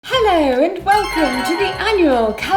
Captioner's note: magical chimes